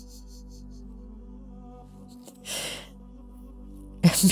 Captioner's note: laughter